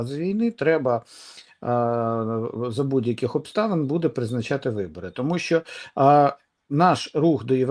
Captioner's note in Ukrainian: сопіння